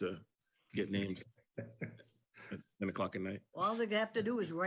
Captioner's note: participant chuckles